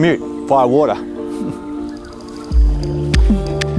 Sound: chuckles; cinematic music

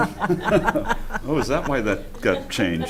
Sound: chuckling

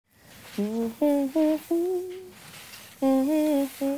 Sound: humming

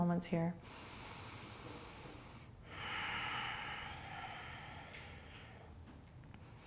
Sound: deep breathing

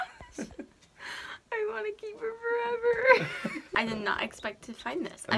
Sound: laughing; laughs

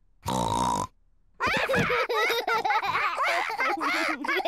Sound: all laugh

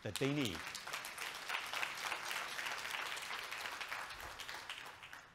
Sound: audience clapping

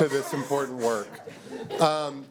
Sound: laughter

